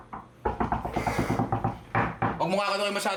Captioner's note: knocking on wood